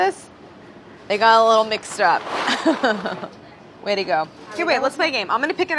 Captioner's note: laughs